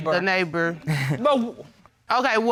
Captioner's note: chuckles